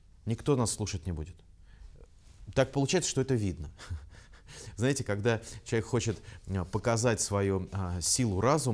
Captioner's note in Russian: смеется